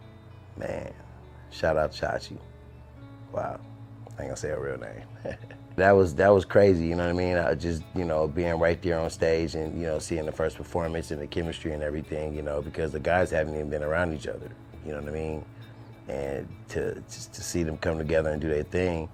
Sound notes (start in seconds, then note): 5.2 laughter